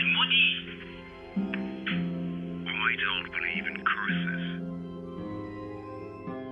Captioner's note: on phone; shattered outro music